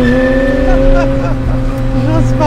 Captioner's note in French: Rire nerveux